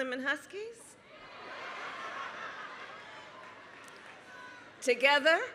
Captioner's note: laughter